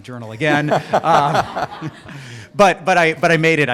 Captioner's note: laughter